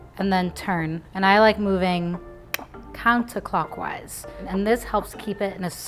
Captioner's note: clicks tongue